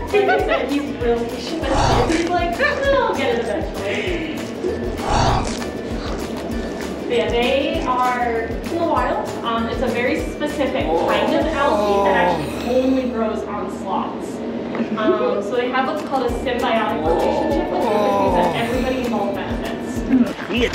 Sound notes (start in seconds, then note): 0.0 giggles; 5.0 munching noises